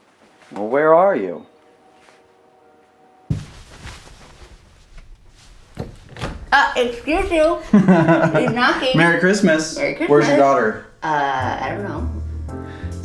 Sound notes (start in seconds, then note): 7.7 laughs